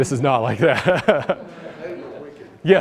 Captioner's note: laughter